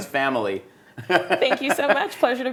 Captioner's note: laughs